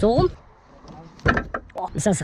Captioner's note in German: klapper